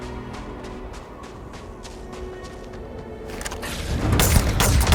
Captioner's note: gunshots